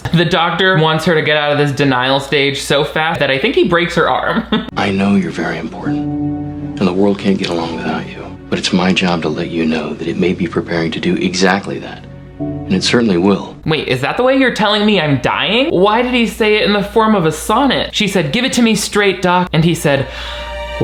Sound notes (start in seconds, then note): 4.3 chuckles; 20.0 somber music